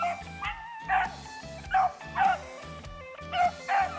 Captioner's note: dogs barking